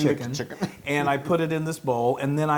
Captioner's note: laugh